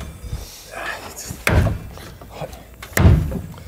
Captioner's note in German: angestrengt